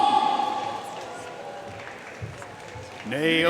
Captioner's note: audience cheering and applauding